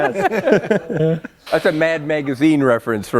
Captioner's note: laughter